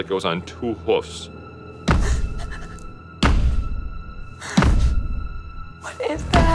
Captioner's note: thumping intensifies